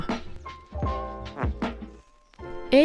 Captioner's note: 𝘴𝘮𝘢𝘭𝘭 𝘧𝘢𝘳𝘵